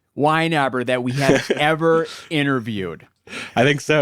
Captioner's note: laughs